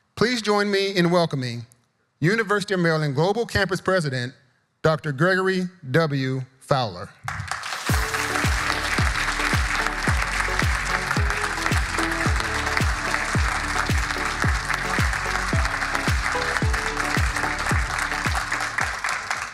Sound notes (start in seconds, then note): 7.5 audience applauding; 7.5 upbeat music